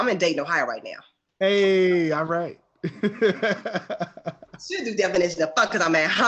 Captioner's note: laughs